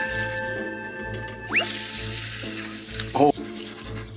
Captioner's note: pouring milk